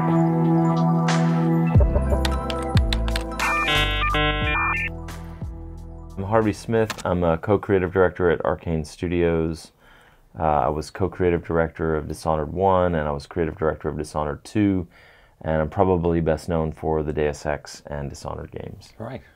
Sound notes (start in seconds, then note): 1.8 keyboard clacking; 3.4 dial-up tone